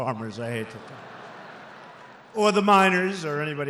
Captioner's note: laughter